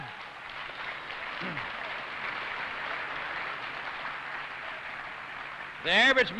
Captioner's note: applause